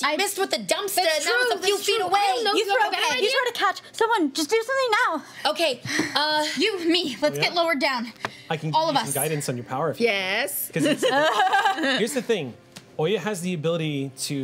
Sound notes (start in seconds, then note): 10.8 laughs